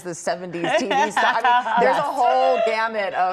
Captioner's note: laughter